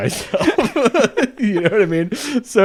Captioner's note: both laughing